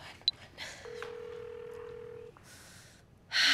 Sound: phone ringing

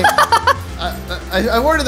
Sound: laughing

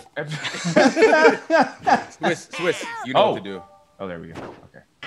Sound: laugh

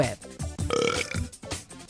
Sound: belching

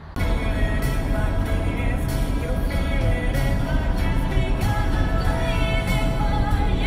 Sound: car accelerating

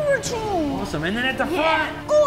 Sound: none

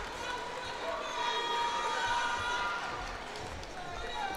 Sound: cheers and applause; indistinct chatter

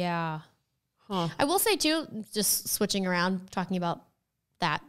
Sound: none

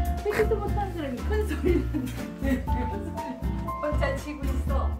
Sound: laughs

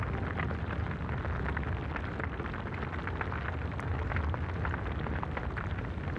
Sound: sun crackling

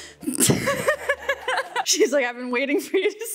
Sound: laughing

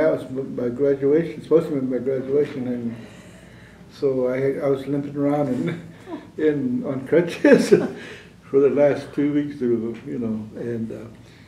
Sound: laughter

